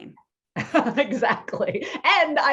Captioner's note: both laughing